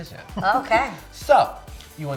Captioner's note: laughing